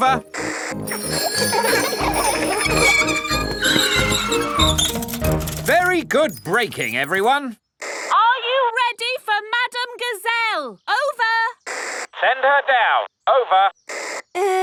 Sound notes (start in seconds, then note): 0.8 giggling and ringing bells; 3.5 tires screech; 11.6 walkie-talkie crackles